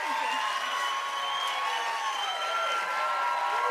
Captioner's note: cheers and applause